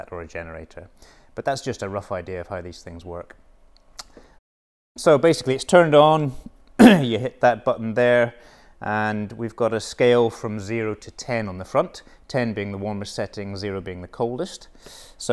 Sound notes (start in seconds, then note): 6.8 clears throat